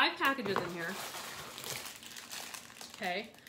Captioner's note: rustling